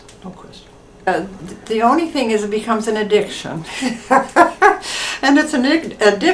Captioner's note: laughs